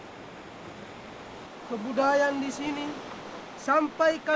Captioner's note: speaking Indonesian